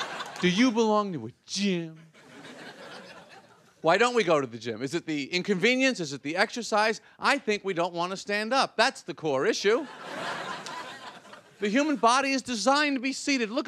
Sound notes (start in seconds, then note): 2.1 audience laughing